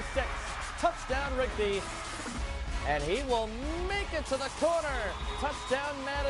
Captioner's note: cheering, then Music